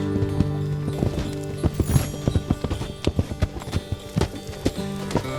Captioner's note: acoustic guitar strumming; horse hooves clomping